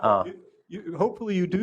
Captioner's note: laughter